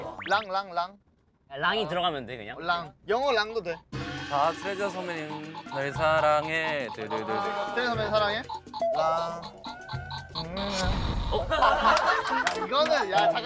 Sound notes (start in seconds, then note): 10.6 pop!; 11.2 laughing